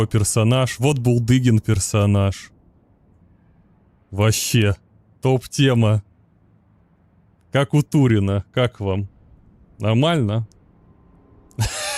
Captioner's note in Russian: смех